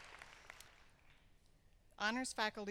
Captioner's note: applause